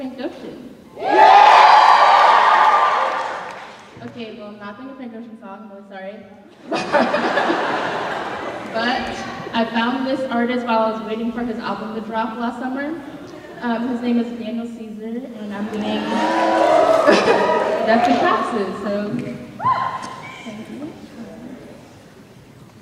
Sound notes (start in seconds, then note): 0.9 cheering; 6.6 laughter; 15.7 cheering